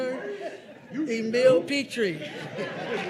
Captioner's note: crowd cheering